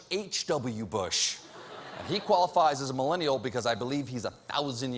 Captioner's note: laughter